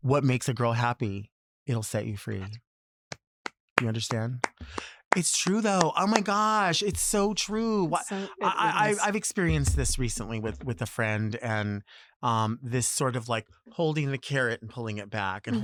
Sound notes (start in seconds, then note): 4.4 applauds